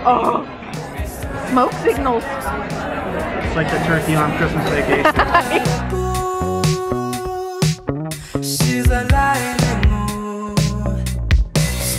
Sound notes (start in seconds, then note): 4.8 laughing; 7.0 upbeat music playing